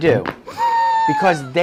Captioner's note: neck crunching; patient gasping